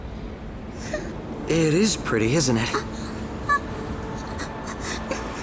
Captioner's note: whimpering